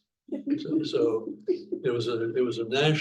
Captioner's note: chuckling